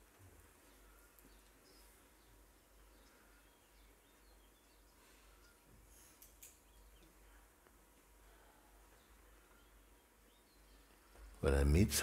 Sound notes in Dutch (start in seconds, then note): 1.8 stilte